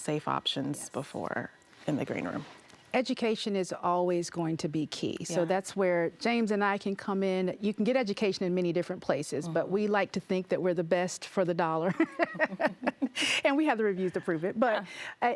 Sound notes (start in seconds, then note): 11.9 laughing